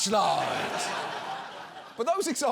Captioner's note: audience laughs